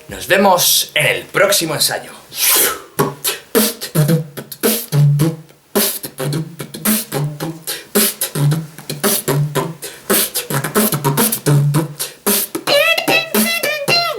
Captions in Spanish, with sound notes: Nos vemos... ¡en el próximo ensayo! [BEATBOXEANDO]